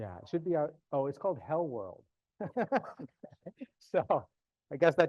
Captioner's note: laughs